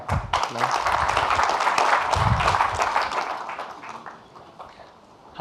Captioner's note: audience clapping